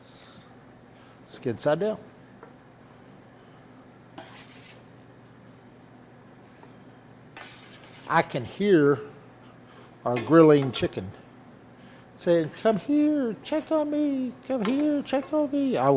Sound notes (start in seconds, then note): 4.2 pan rustling